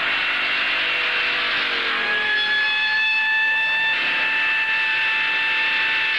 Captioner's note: siren Wailing